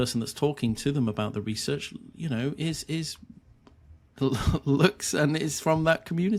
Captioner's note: chuckling